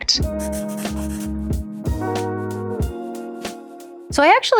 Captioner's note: jazz music; pencil scribbling